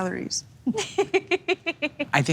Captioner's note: laughing